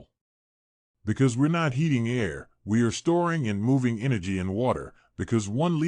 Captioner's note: water